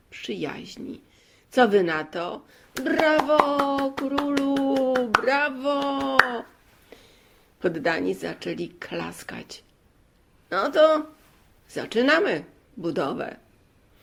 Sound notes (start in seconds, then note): 2.8 clapping sounds